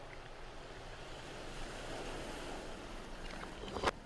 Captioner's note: waves crashing